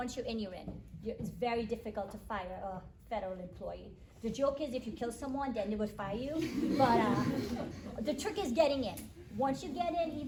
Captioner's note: attendees laugh